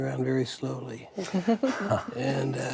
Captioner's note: laughing